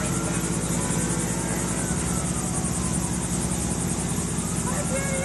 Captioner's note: helicopter whirring; siren wailing